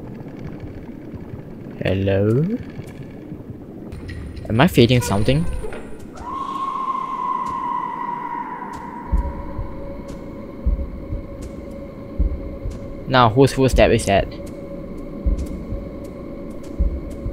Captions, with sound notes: hellooooooooo? am I feeding something? ( Somebody's scream ) ( RANDOM FOOTSTEPS ) NOW WHOSE FOOTSTEPS IS THAT